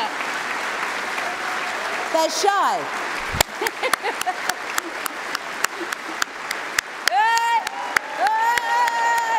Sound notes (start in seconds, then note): 3.6 applause